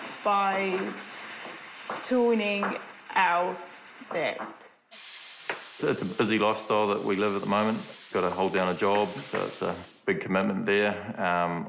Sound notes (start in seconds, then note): none